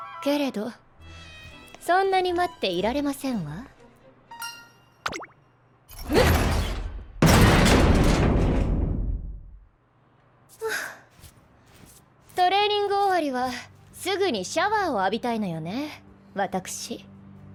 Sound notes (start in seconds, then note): 6.0 crrrunch* BANG!; 10.4 huff